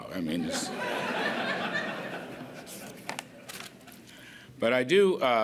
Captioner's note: laughter